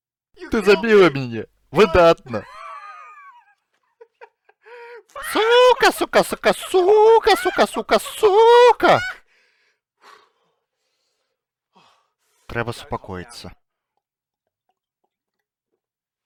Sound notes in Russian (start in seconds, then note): 2.1 шалёна смяецца